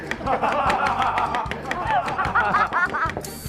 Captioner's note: hahaha